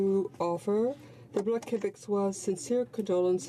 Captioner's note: speaking in french